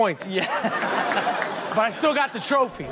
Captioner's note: audience laughs